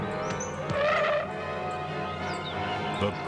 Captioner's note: tires screech